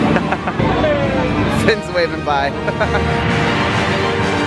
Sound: laughs; laughs; adventurous music

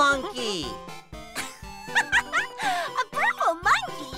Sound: laughs

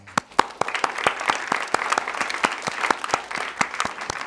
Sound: applause

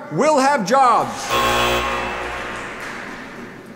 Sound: machine buzzes

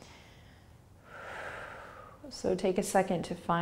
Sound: exhaling

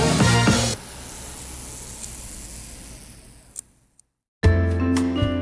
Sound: engine whirs softly; mellow orchestra music

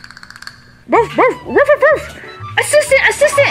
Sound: barking

